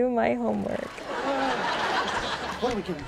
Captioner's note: laughing